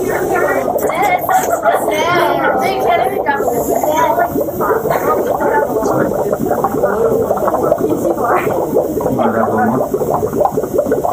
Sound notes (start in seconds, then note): 3.7 bubbling